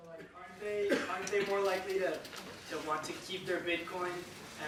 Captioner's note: voiceover